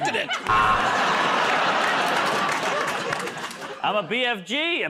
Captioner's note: buzzer